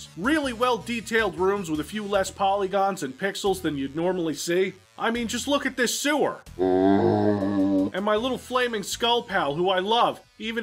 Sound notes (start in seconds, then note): 6.5 zombie sound